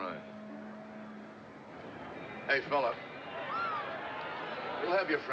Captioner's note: woman Screams